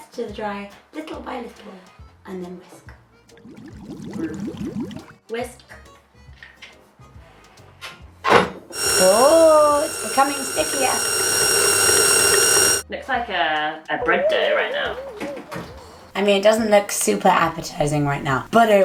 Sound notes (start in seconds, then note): 3.3 bubbling noises; 8.7 mixer noise